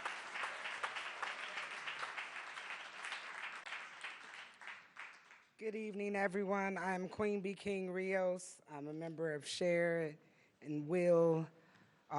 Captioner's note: applause